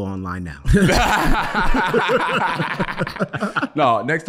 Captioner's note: group laughing